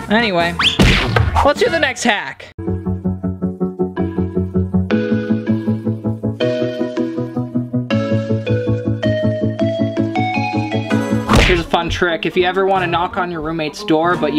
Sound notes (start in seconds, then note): 2.4 upbeat music; 11.2 slamming